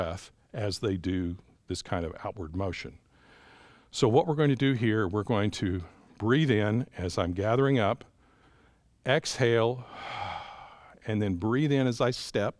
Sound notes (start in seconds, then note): 9.8 exhales